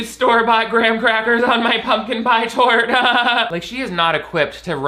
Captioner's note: laughs nervously